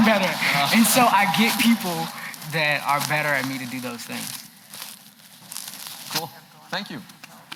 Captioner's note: applause